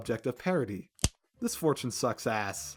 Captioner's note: crack